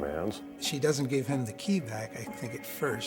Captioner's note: voiceover